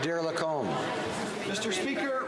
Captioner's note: some Applause